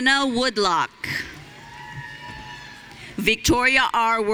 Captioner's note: audience cheering